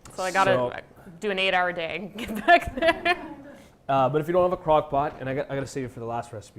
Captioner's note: laughs